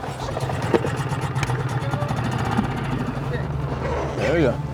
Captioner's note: motor burbling